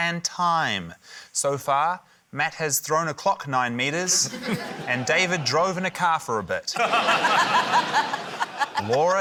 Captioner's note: laughter